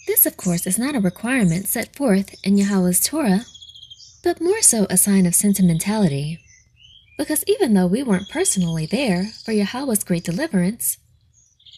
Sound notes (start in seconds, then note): none